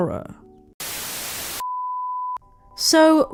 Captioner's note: static